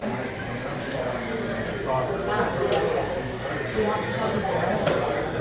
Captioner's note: crowds talking